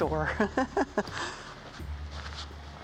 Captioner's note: laughing